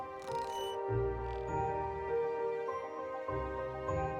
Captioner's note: carriage squeaking